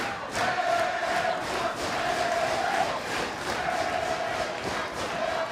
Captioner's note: fans chanting